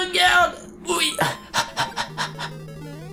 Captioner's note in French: halètements